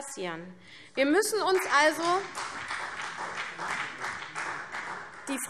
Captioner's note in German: Vereinzelter Beifall CDU